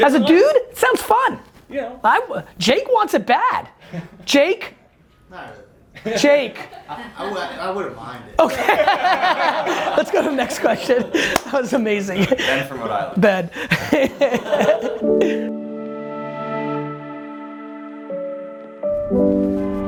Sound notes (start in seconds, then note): 8.4 laughing; 17.0 calming music